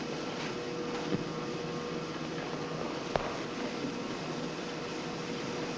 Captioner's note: machinery whirring